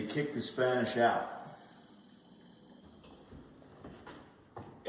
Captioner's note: water running